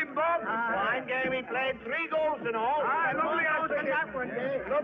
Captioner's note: men chattering